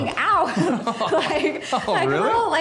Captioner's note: both chuckles